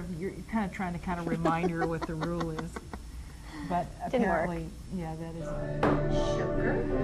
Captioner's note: laughs